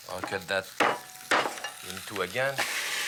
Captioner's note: cleaver pounds; pan sizzles